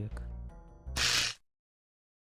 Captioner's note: electric shock